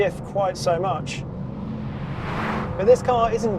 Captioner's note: vehicle revs